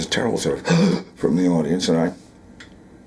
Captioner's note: gasps